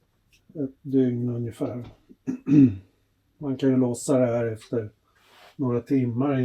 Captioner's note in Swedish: harklar sig